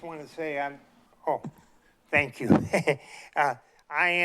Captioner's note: chuckles